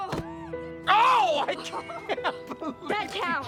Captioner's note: laughing